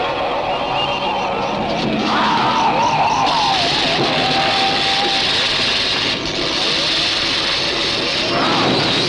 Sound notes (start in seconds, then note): 3.6 electrical buzzing